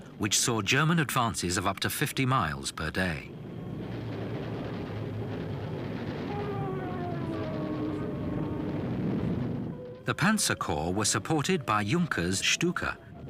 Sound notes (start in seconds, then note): 3.6 bombs blasting; 6.6 plane engines roaring